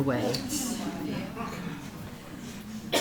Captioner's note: audience laughing